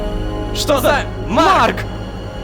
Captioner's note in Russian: хором